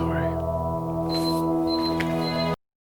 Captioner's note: beeping